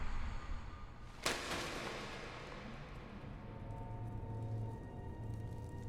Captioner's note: voices whispering; object clatters; foreboding eerie music